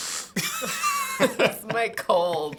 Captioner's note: laughing